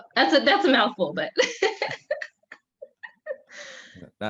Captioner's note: laughs